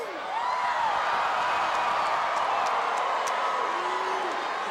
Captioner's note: audience cheering